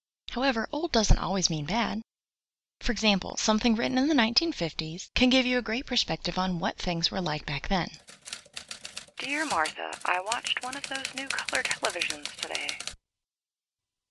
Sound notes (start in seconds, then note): 8.0 typewriter keys clacking, carriage return; 9.4 muted voice as if on old recording